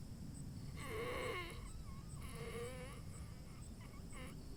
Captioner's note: Keith wheezing